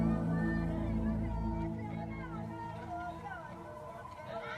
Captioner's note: chanting in foreign language